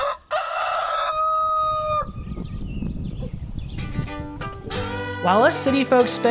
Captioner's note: rooster crows